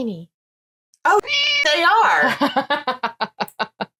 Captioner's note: meow